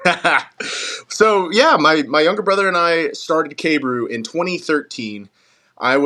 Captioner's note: laugh